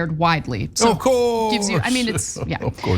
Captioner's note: laugh